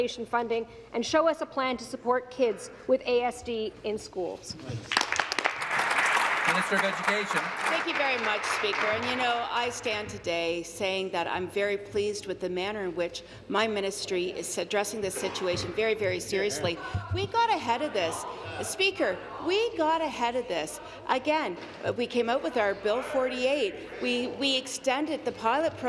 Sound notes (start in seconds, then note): 8.1 applause